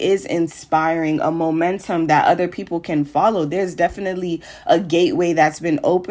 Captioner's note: none